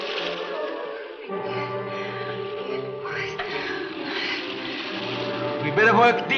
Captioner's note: Ann whispers unintelligibly